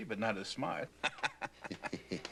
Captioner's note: mocking laugh; laughing